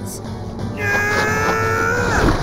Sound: groaning

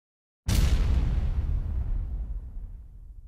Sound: thudding

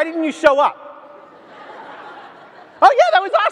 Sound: audience laughs

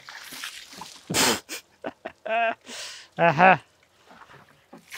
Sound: laughs

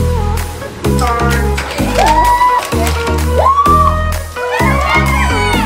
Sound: kids squealing in excitement; tempo increasing

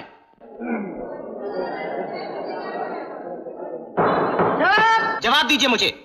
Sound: indistinct chatter; gavel Banging

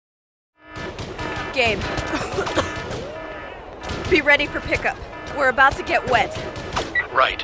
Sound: coughs

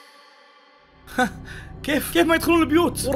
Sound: laughs in disbelief

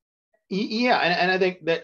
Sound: chuckling

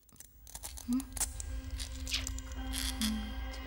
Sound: scary sounds

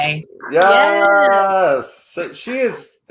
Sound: group cheering

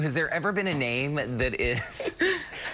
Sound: laughter

